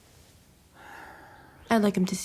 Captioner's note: sighs